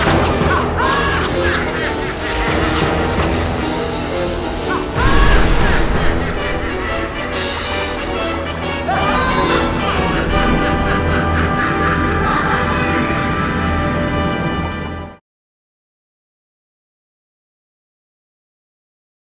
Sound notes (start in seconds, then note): 0.1 electricity crackling; 6.3 dramatic music; 9.4 Ursula laughing